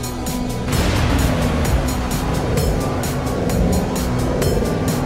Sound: portal buzzing

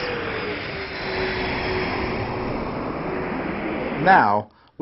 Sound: engines sound

